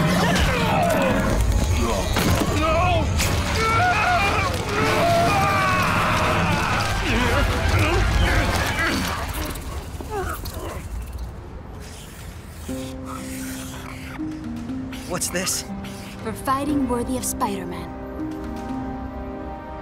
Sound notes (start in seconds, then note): 0.0 growling; 0.3 wincing; 3.2 screaming